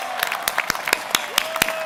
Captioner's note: applause